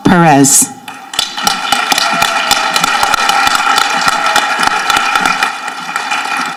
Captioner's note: people applauding and cheering